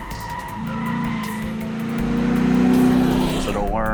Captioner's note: sound of Tires Squealing; sound of Engine Revving